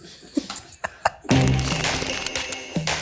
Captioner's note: laughing; upbeat music